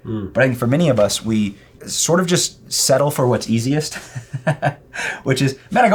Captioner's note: chuckles